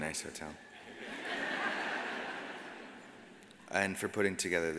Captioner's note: audience laughs